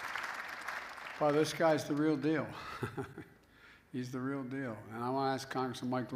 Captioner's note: laughs